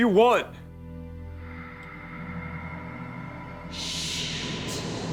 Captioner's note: eerie breathing